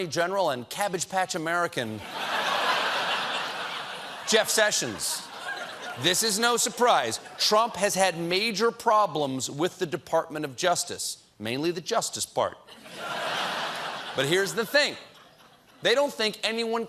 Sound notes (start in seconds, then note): 5.4 laughter; 12.7 laughter